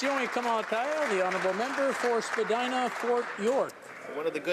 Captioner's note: some Applause